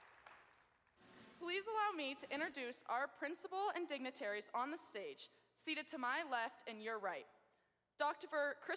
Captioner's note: applause